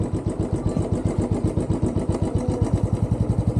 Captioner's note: motorbike engine